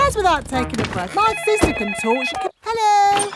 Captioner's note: cellphone ringing